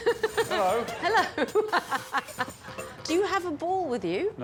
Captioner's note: laughs